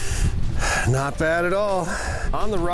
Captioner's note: sighs